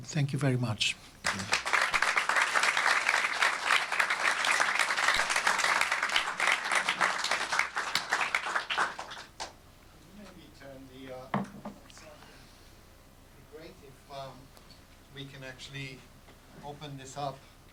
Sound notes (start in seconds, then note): 1.0 applause